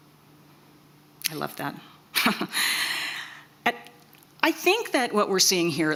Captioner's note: chuckles